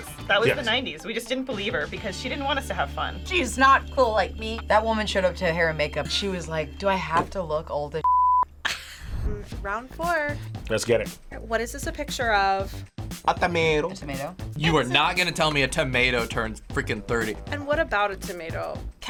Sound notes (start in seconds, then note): 8.0 beeping; 8.6 laughs